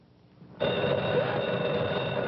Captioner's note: phone ringing